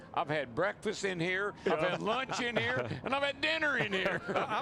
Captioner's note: laughter